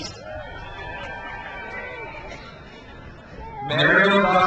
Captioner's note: crowd cheers